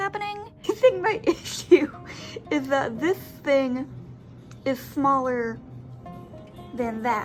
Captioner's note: laughing